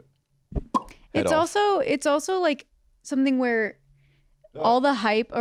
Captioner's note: pop!